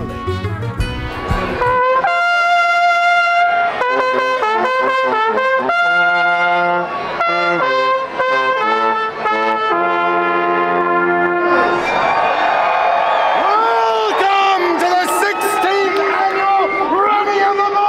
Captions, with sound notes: (trumpet blaring) (crowd cheering) - Welcome to the 16th Annual Running of the Bulls!